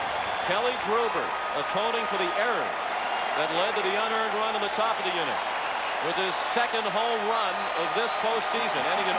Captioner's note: applause